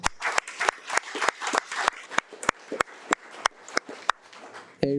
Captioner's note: audience applauding